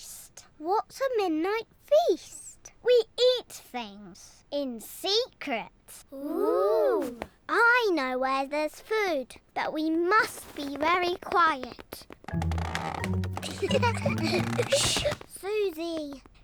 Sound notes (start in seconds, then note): 12.1 floorboards creak; 13.3 all giggle